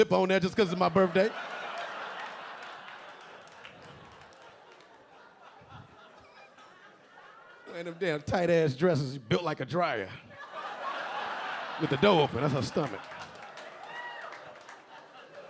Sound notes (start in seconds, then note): 1.5 audience laughing; 10.4 audience laughing